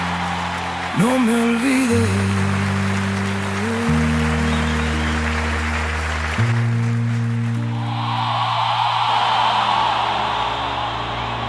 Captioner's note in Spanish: aplausos